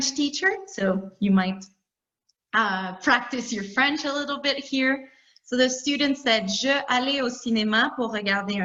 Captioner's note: talking in French